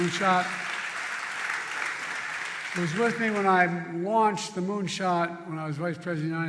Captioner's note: applause